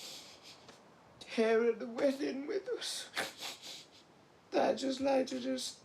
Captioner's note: sniffles